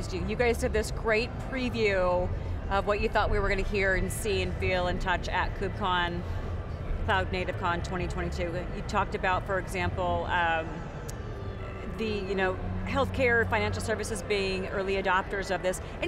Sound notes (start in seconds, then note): none